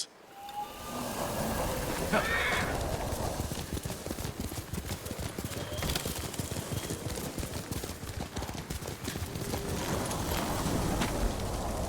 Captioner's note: whistling